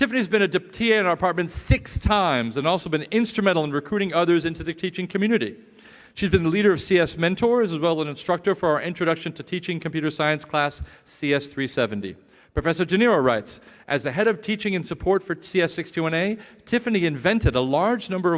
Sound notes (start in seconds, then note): none